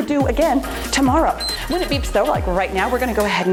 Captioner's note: timer beeps